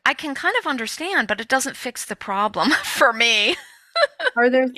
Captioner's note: laughs